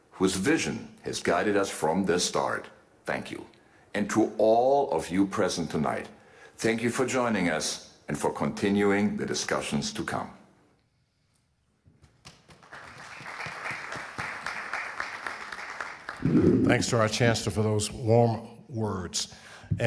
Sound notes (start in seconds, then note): 12.2 audience applauding